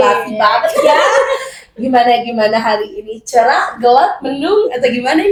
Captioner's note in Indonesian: tertawa